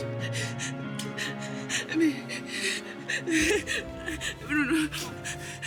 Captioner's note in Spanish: Sollozos